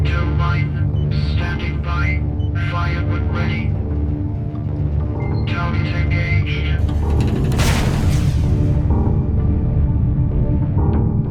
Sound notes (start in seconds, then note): 6.8 heavy thwump; 9.0 dramatic music